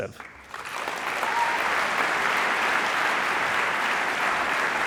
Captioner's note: audience applauding